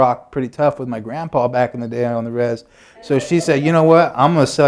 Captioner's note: laughter